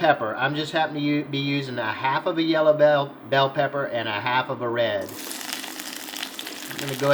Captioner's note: sizzling